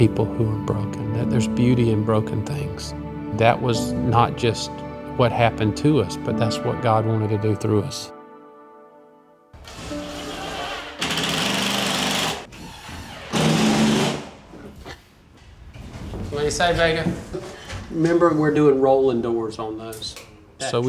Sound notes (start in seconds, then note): 9.6 drill sputters